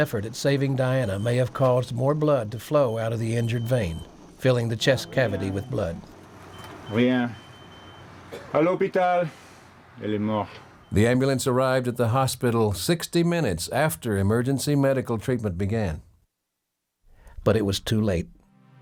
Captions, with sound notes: This last effort at saving Diana may have caused more blood to flow out of the injured vein, filling the chest cavity with blood. (doctor speaking French) - The ambulance arrived at the hospital, 60 minutes after emergency medical treatment began,